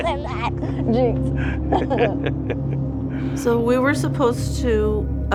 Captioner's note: laughter